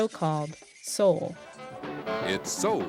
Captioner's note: soundbite of tv show, "soul!"